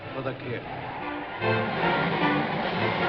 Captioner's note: tires screeching